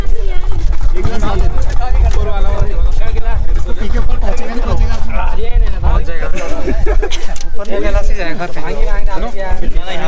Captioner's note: laughs